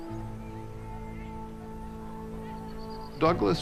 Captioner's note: tense music; people chattering